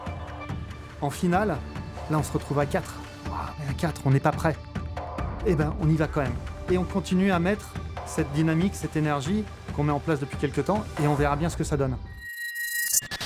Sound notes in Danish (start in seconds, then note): 0.9 på fransk